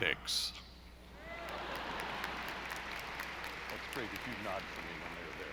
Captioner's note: audience applauding